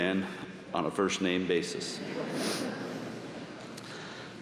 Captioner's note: laughter